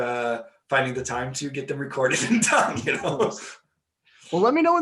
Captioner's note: laughing